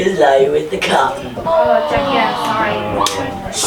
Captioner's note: group chattering